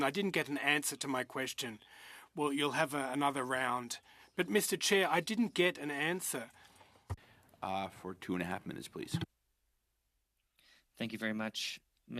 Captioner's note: speaking French